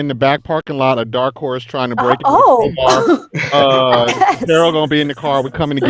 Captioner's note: speaks faintly